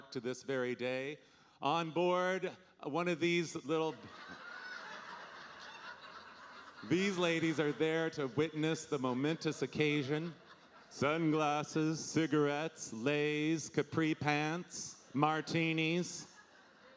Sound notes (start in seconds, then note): 4.2 audience laughing